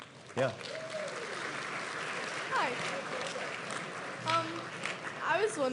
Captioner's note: applause and Cheering